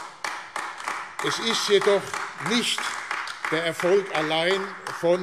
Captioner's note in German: Beifall AfD